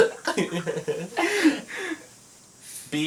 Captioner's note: recovering from laughter